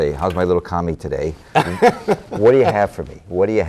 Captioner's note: laughter